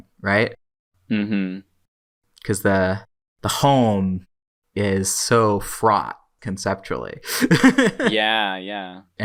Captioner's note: laughs